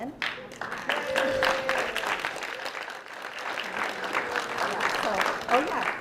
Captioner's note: applause